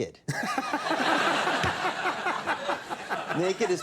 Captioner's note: Conan laughing; audience laughing